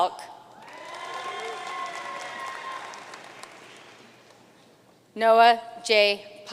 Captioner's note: audience cheering and applauding